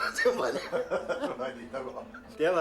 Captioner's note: laughter